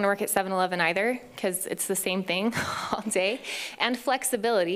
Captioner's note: laughs